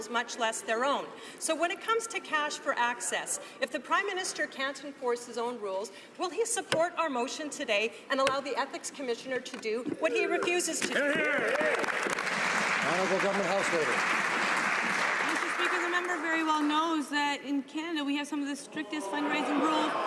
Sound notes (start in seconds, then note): 14.4 some Applause